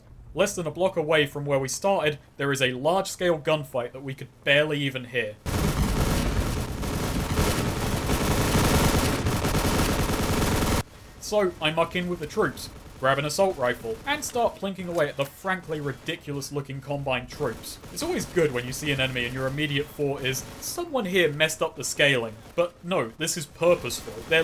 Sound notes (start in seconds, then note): 5.4 many, many gunshots